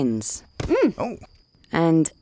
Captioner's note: couple gasps